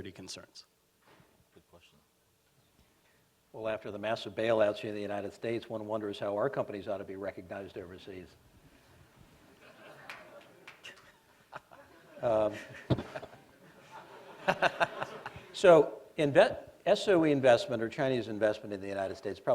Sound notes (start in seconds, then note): 8.8 laughter